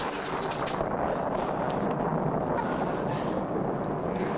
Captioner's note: thunder rumbling